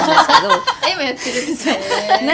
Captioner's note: laughs